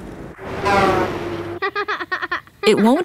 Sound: laughter

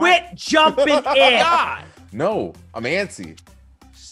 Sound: laugh

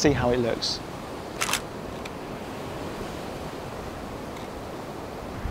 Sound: camera shutter

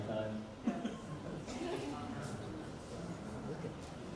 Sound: audience chatters

